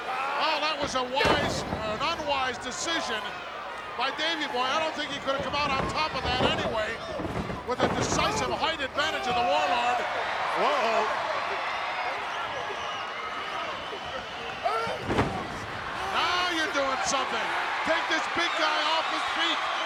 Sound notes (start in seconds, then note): 14.8 Warlord thuds